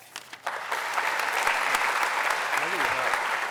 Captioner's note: applause